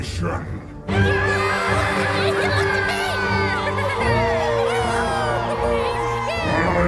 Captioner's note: Kobolds cheer